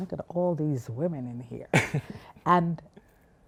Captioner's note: laughs